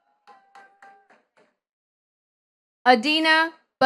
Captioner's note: attendees clapping